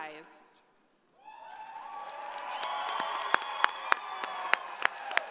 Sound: audience applauding

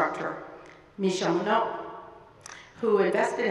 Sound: speaking in a foreign language

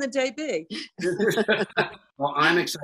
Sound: both laugh

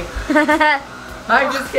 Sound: laughs

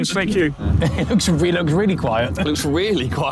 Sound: Ethan chuckling

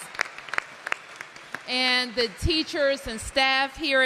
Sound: applause

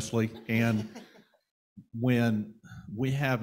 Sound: panel laughing

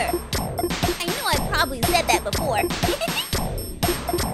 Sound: laughs; dance music

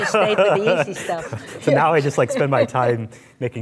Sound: laughing

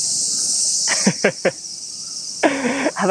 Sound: chuckles

